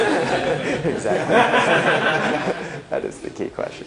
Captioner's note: laughter